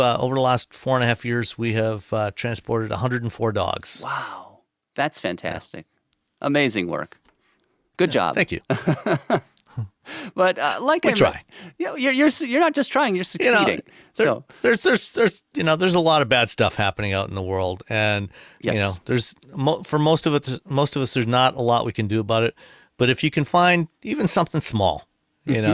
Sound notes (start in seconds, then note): 8.7 laughs